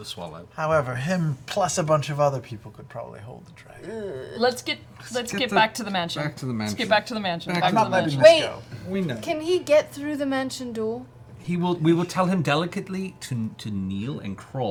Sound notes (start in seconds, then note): none